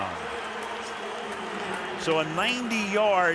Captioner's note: pa announcement